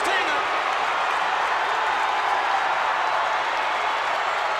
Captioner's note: crowd cheering